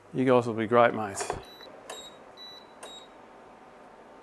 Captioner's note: both cooktops beeping together